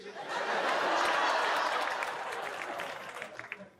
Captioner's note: audience laughs